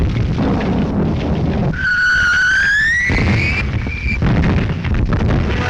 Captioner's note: bombs continue whistling